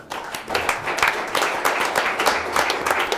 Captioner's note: clapping